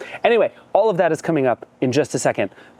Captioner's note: none